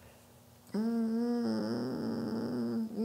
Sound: hums

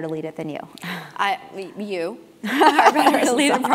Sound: laugh

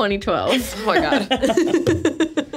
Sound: laughs

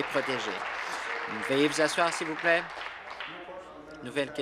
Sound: applause

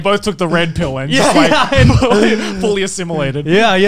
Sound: laughing

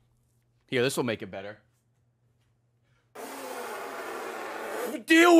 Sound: raspberry noise

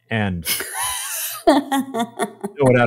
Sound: laughing

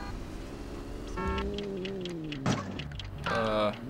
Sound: timer ticking

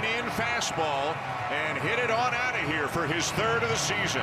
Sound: cheering & Applause

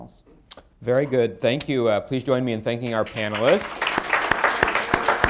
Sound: applause

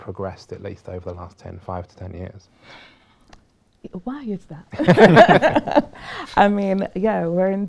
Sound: laughter

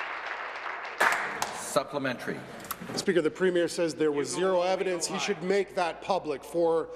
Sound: applause

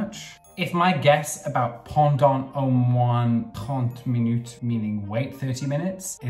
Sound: speaking in foreign language

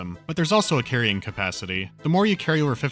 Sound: none

